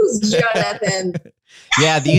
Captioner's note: laughing